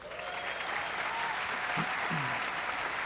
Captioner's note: applause